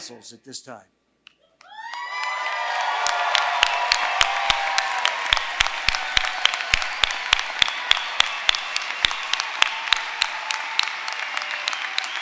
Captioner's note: applause